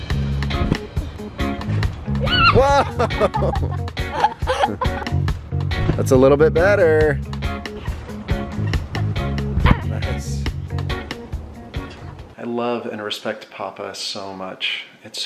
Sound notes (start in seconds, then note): 0.2 upbeat music; 4.2 laughing